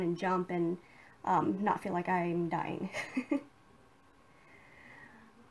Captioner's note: chuckles